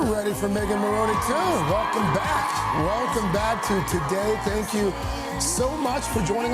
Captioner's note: cheers